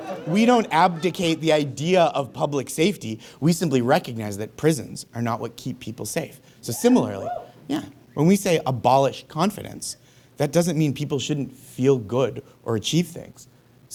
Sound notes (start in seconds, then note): 6.7 scattered whoops